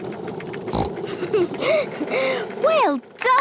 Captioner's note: giggles, snorts